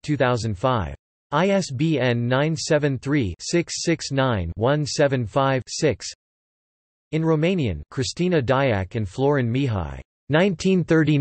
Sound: in Romanian

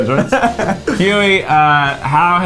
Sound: laughing

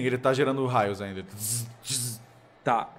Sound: tzz tzz

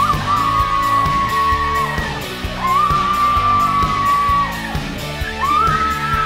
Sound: kids yelling; upbeat rock music

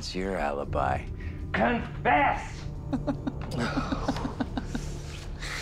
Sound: Dennis laughs

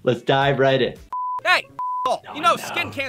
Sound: beep

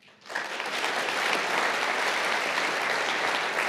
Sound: audience applauds

